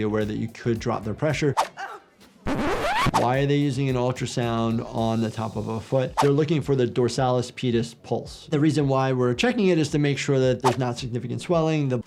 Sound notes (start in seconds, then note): 1.6 patient shouts in pain; 2.4 record scratches